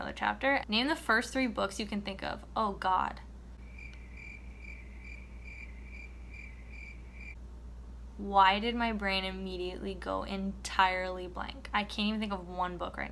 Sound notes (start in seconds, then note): 3.6 cricket noises